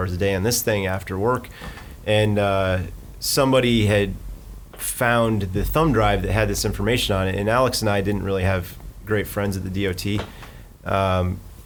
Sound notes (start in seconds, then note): none